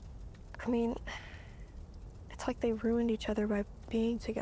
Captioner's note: sighs